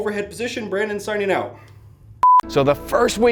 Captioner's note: beep